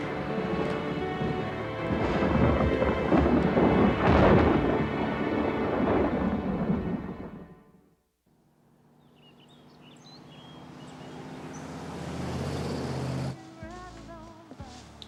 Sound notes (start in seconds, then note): 2.3 thunderclap continues; 10.7 car engine roars